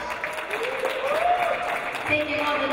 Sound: audience applauding

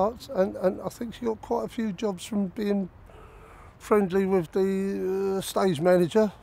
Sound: laughing

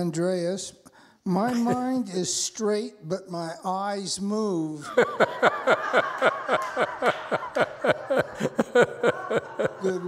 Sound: moves eyes from side to side, laughs

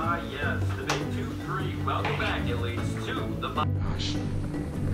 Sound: radio show in the background

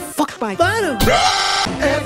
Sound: loud yelling

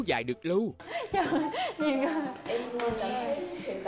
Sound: giggle

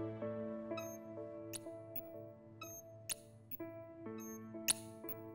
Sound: camera snapping

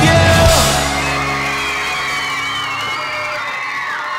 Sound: kids cheering

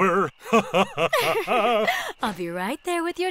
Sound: laughing

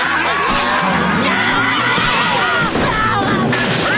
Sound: screaming

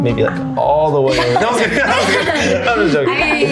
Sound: everyone laughs

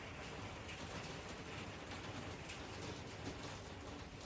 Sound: hail picks up again, rain stays constant

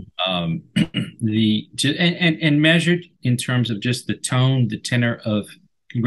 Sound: clears throat

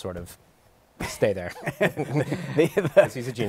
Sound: laughs

